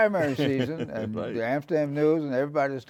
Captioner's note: laughing